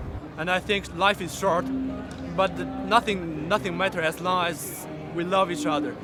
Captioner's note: Chinese accent